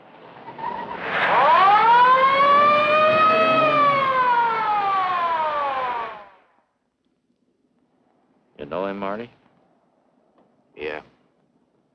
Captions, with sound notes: (Siren blaring) You know him, Marty? Yeah.